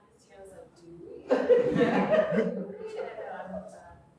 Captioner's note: audience laughing